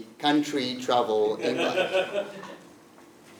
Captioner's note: laugh